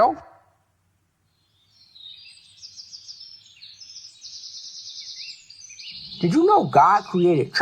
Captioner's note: birds chirping